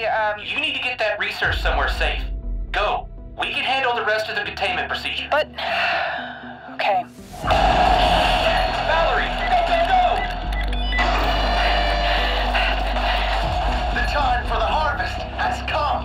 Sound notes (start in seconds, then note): 9.4 keypad beeps, door opens; 11.3 heavy breathing